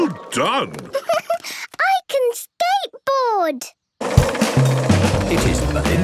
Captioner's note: giggles